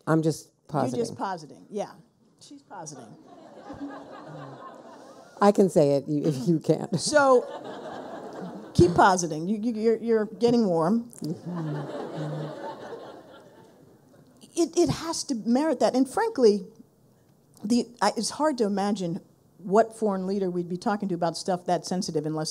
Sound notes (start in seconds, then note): 3.1 people laughing; 7.3 people laughing; 11.3 people laughing